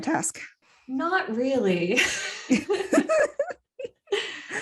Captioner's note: wheeze